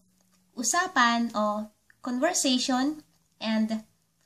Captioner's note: conversation